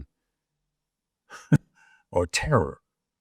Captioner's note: chuckling